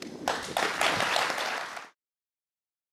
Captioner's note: applause